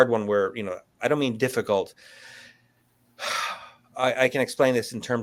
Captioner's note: sighs